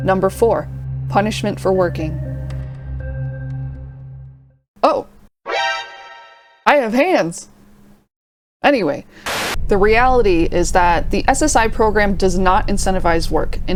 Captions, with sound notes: Number four Punishment for working Oh! [Metal Gear Solid alert sound] I have hands! Anyway. [STATIC] The reality is that the SSI program does not incentivize work.